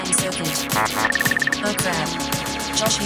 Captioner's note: beeping